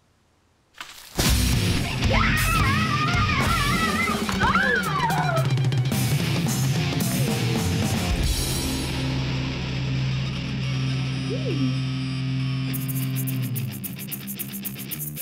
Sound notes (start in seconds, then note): 1.2 hard rock music; 1.8 screaming